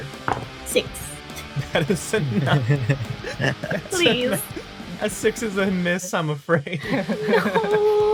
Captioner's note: laughs